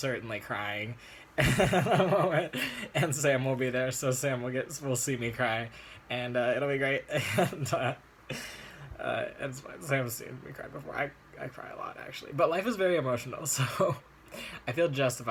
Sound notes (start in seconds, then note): 6.5 laughs